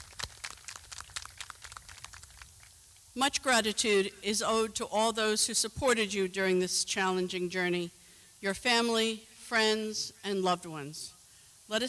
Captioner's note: clapping